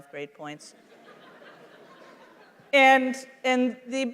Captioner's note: laughter